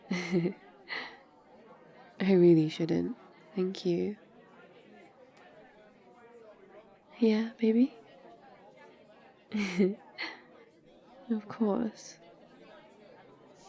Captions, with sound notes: *laughs* I really shouldn't, thank you yeah? baby? *laughs* of course